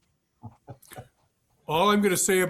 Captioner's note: laughs